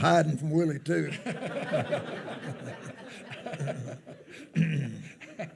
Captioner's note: attendees laughing